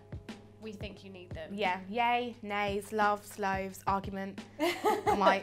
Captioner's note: laughs